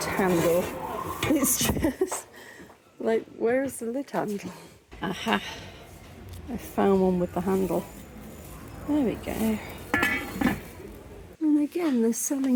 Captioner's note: laughing